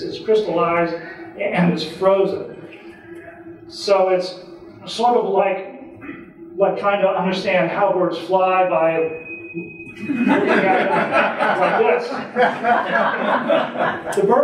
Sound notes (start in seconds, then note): 9.9 audience laughing